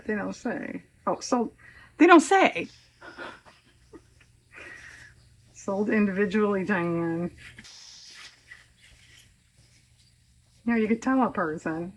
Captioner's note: laughs